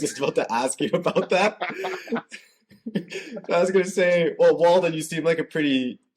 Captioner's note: laughter